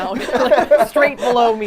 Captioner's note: all laughing